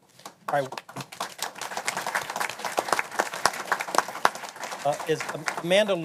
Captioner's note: applause